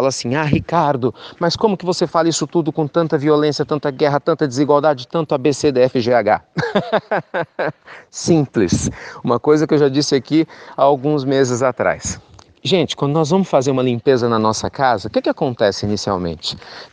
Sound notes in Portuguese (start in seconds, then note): 6.5 risos